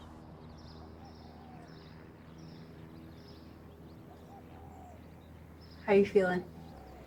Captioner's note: birds chirping